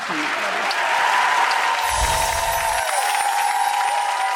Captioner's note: applause